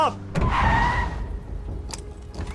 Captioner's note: tires screech; dramatic music